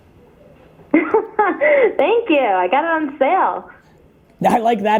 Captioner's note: laughs